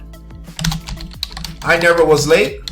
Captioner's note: keyboard keys clicking